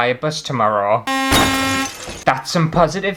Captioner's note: horn; crash!